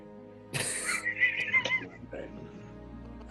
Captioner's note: group laughs